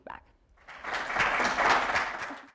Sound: applause

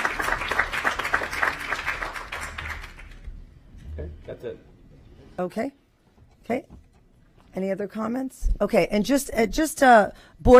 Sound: applause

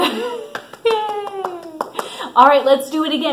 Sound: clapping

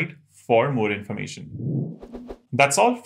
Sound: sound effect

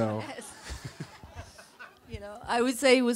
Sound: laughs

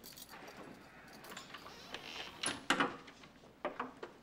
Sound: door closing

